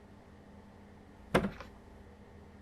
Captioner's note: thud